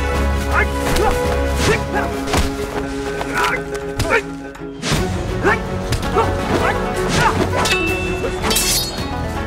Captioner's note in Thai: เสียงการต่อสู้